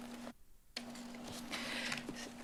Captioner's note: rustles